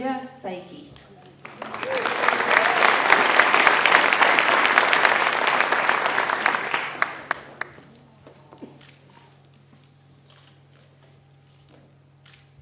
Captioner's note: applause